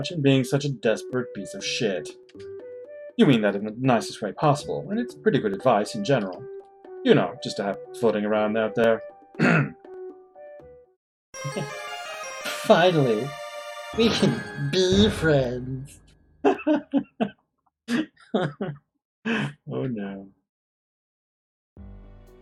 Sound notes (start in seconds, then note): 9.4 clears throat; 11.4 friendship fanfare; 11.4 chuckles; 18.3 laughing